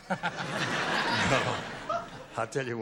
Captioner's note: laughter